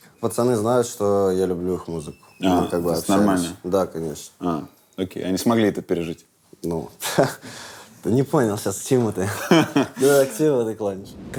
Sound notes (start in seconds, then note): 7.2 chuckles